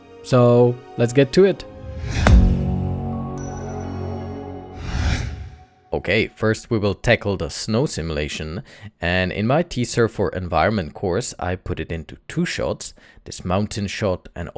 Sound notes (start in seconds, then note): 2.3 logo chiming